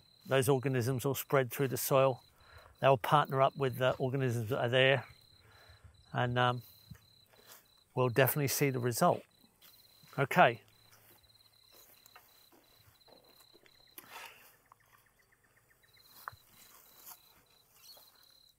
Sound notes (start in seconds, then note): 12.5 insects chirping; 12.5 tools scraping